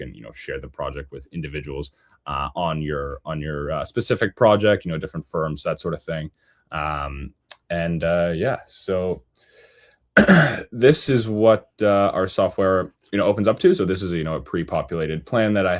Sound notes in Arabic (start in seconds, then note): 10.2 يُصفّي حلقه; 10.2 سعال